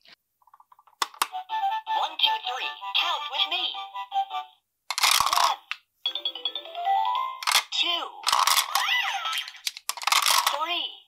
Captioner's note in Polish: dźwięki zabawki w jęz. ang